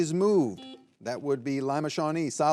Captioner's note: buzzer buzzing